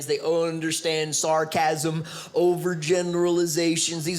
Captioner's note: none